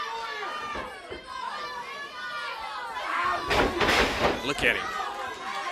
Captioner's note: crowd cheering